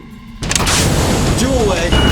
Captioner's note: torpedo released